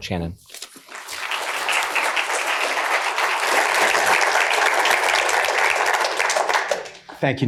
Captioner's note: audience applauding